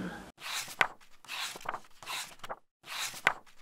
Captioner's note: pages turning